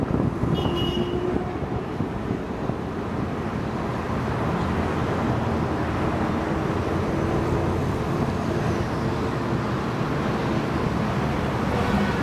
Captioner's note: wind, car noises